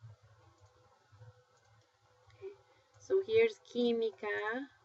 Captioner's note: spanish